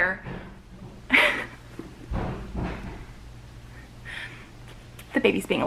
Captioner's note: banging on the walls